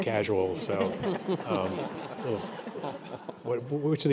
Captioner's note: audience laughing